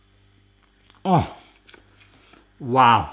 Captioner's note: sighs